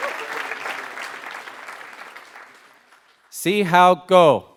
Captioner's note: applause